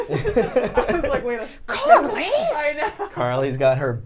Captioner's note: laughter